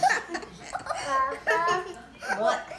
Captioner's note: laughter